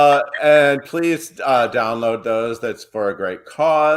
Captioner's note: laughs